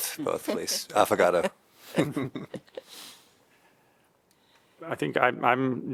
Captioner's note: laughter